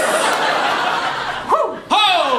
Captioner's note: “whoo”